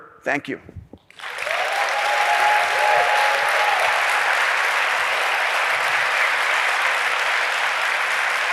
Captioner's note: applause